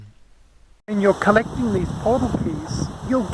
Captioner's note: wind noise